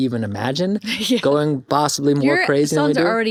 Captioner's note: chuckles